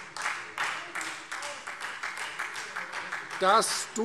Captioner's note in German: Beifall Freie Demokraten